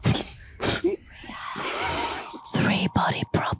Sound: all laughing

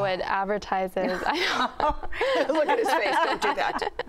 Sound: laughing

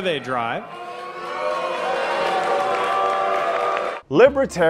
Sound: boos

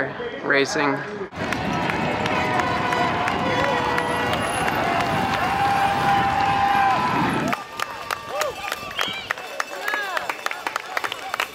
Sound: cheers and applause

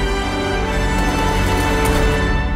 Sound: gunshots

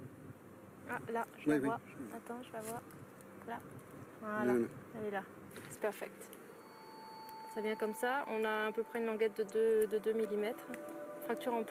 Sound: speaking in foreign language

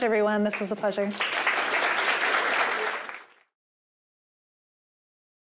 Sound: applause

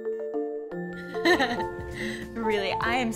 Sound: laughs

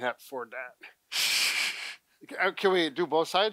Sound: laughing

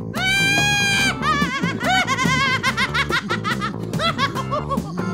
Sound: screaming laughter

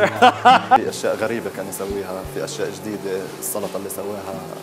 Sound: laughs; speaking in Arabic

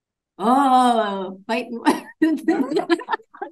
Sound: laughs; people laughing

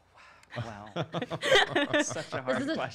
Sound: laughter

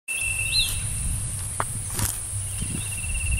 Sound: footsteps

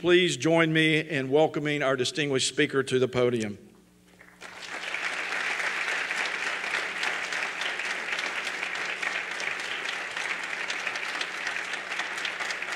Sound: applause

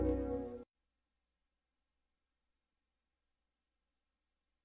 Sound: silence

